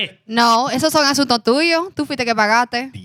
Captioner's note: speaking Spanish